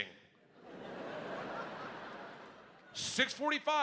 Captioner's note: audience laughing